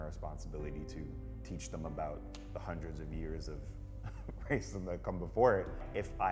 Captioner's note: laughs